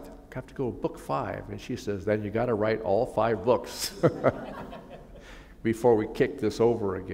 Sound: laughter

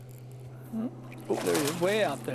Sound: splash

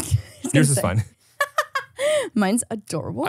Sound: laughs

